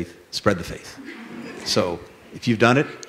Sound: laughter

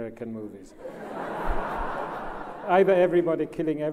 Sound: laughs

